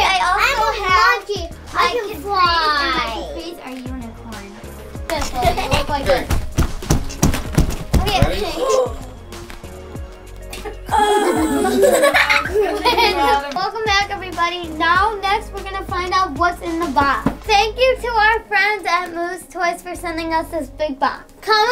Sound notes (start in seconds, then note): 5.2 banging on table; 10.5 giggles; 10.5 gasps